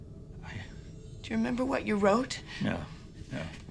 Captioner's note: none